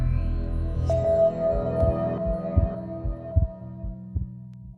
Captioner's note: low digital bell chimes